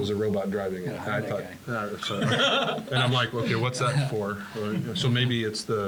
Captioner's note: laugh